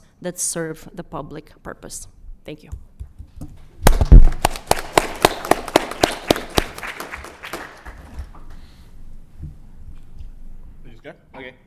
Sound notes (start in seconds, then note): 3.9 applause